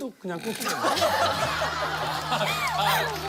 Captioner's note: laughs